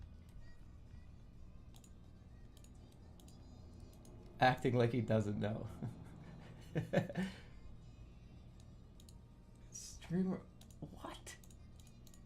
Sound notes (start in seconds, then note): 5.7 chuckles